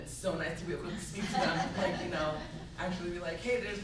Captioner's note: laughs